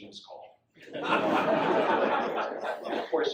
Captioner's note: audience laughs